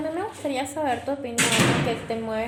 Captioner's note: door slam